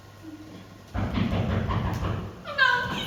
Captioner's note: knocking at the door